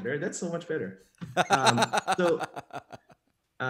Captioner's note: laughs